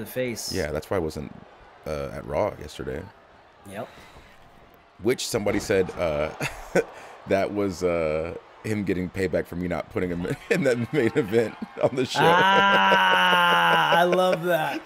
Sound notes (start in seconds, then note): 6.3 laugh; 10.4 laugh